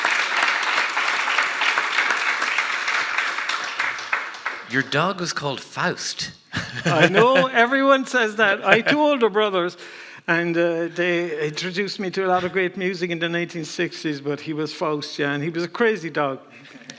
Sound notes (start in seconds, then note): 6.4 laughs; 16.0 audience laughing